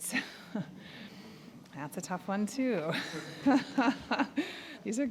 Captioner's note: all chuckling; chuckling